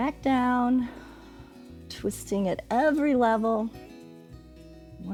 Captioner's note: exhales